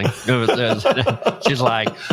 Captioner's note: laughs